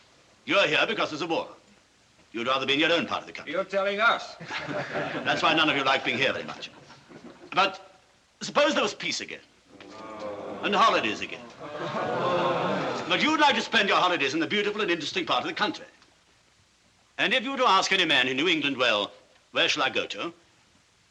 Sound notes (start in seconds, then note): 4.4 laughing; 9.7 all Groan; 11.3 chuckling